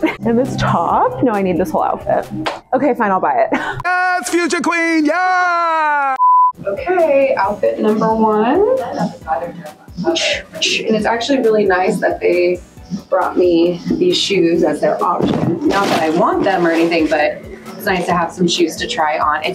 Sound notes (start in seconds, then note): 6.2 screen beeping